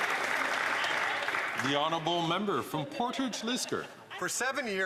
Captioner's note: some Applause